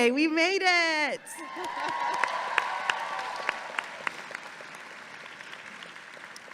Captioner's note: audience applauding and cheering